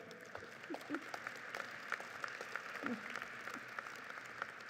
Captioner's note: audience applauds